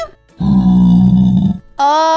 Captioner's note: grunting